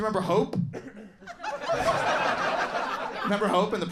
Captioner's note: crowd laughs